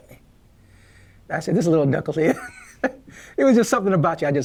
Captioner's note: stepfather Chuckling